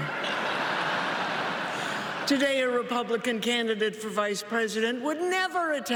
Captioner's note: applause